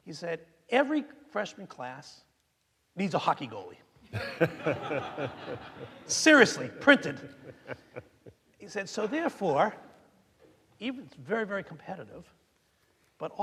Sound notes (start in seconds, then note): 4.1 audience laughing